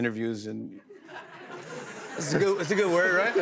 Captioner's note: laughter